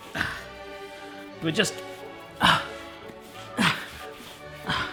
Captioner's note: relaxed classical music; grunting